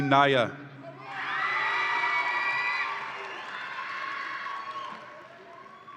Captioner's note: audience applauds and cheers